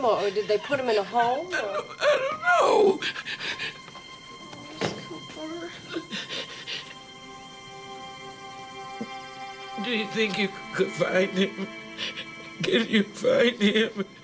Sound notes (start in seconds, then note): 0.0 sobs; 7.2 dramatic music